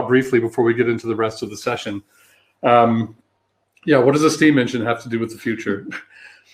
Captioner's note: erm